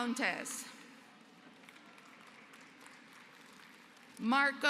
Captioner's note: applause